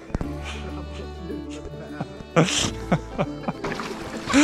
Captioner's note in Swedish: Skratt